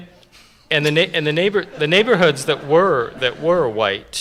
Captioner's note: laughter